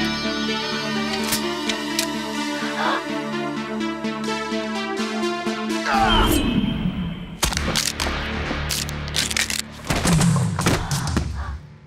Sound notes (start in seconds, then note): 1.2 guns cock; 2.3 gasps